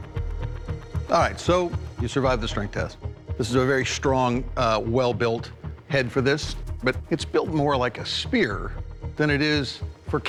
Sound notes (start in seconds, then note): none